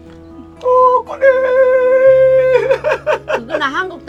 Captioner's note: mimicking chicken sound